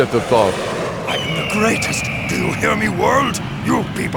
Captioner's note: eagle screeching